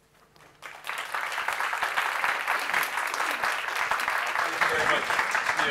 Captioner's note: applause